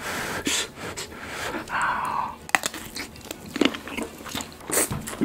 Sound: sigh

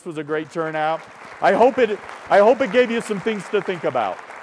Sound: applause

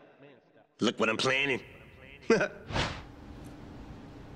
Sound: chuckles

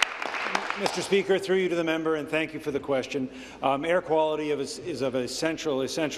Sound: applause

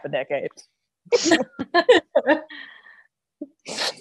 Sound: laughs

